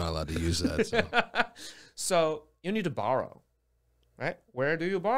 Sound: laughs

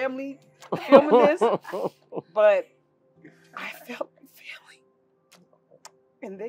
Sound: laugh

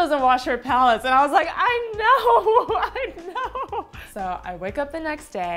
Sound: laughs

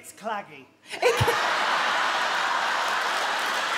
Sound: she laughs

